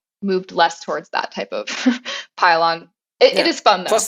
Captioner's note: laugh